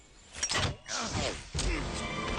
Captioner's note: crossbow clanks; Snake grunts; dramatic music